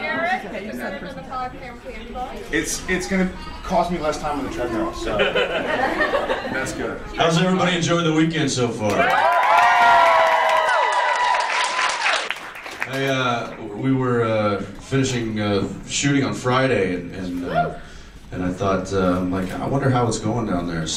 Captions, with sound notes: Jared, is it better than the five pound candy bar? It’s going to cost me less time on the treadmill, so... [audience laughs] That’s good. How’s everybody enjoy the weekend so far? [audience cheers] I... we were... finishing shooting on Friday and... and I thought like, I wonder how it’s going down there.